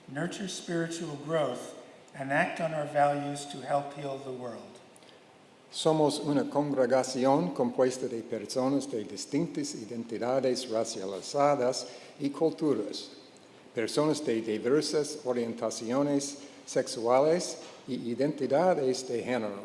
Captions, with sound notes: nurture spiritual growth, and act on our values to help heal the world. (speaking in Spanish)